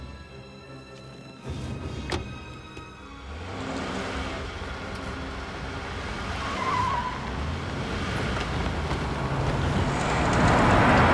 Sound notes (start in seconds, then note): 2.4 door thuds; 2.8 tires screeching; 3.0 engine revving